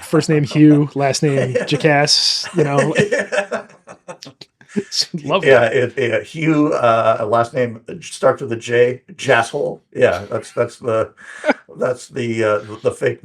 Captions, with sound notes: first name Hugh, last name, Jocas, you know. (laughing) Love that. Yeah, Hugh, last name, start with a J, Jasole. Yeah, that's the fake